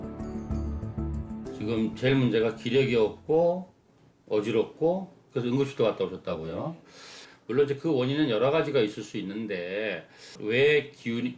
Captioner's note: voiceover